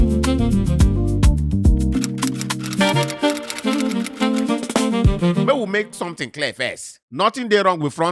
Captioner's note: instrumental music; keyboard clacking